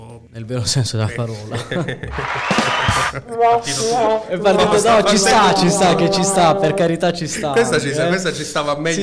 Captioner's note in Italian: applauso